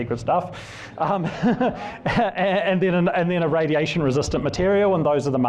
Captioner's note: laughs